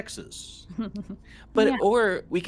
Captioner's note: Calla laughs